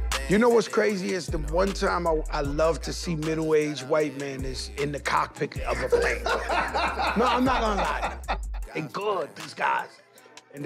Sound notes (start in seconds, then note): 5.6 laughter